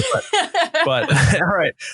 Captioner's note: chuckling; drowned out by laughing